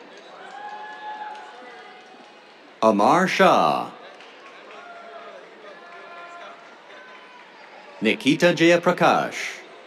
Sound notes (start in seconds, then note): 0.1 cheers; 4.2 cheers, applause